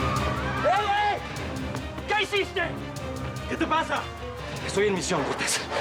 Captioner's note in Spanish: griterío